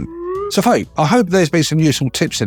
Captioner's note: overlay whistling